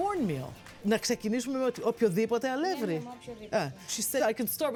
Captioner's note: speaking greek